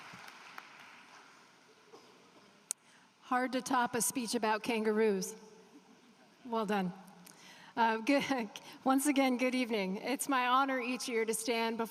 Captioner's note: applause